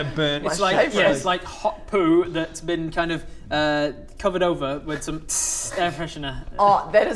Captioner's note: tzsss